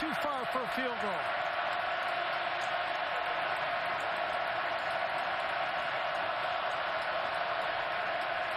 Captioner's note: crowd noise